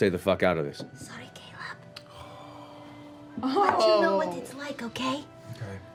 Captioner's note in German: flüstert